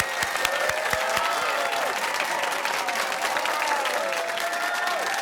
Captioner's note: cheers and applause